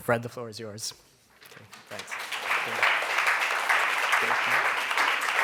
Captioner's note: applause